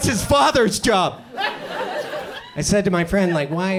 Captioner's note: audience chuckles